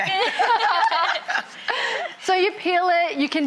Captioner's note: all laugh